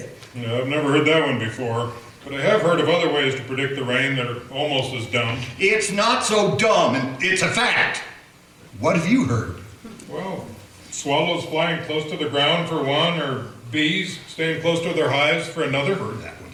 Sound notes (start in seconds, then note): none